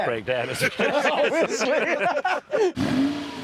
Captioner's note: they laugh